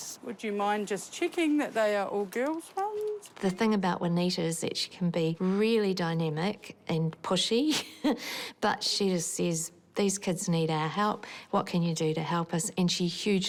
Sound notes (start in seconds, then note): 7.8 chuckles